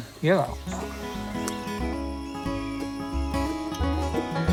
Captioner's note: spitting tobacco